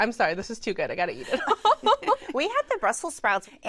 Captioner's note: laughter